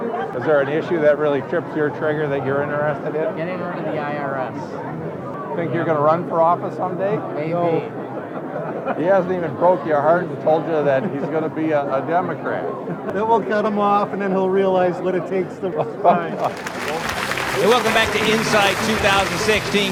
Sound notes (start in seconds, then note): 16.3 applause